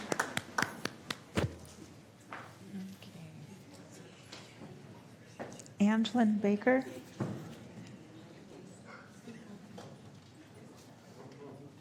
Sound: applause

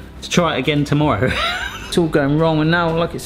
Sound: laughing

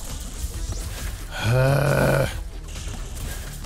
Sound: annoyed groan

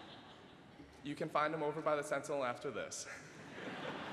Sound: laughter

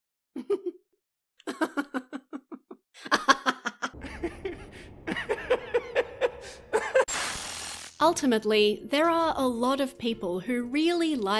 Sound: maniacal laughter

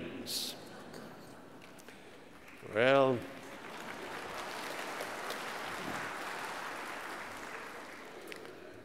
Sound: applause

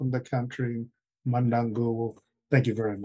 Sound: speaking traditional language

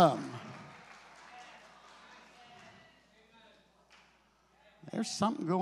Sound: congregation clapping

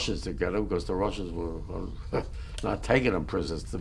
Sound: laughs

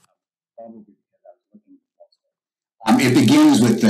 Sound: audio cut out

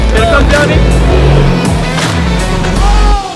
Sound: jet ski engine revving

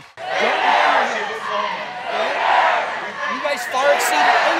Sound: crowd chanting

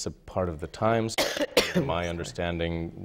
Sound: coughing

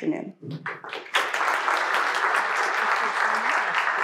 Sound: audience applauding

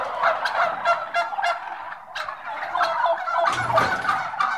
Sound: turkeys gobbling

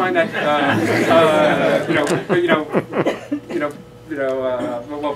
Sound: laughter

